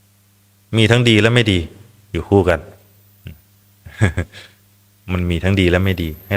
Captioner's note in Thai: เสียงหัวเราะ